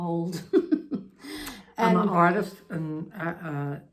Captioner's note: laughs